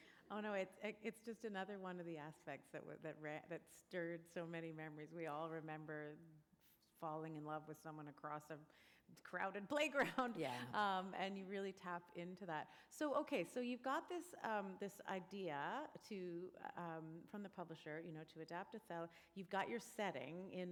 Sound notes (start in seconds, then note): 10.5 chuckle